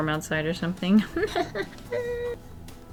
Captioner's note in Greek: Γέλια